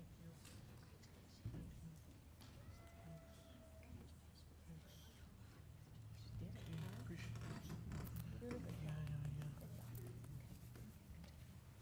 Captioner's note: applause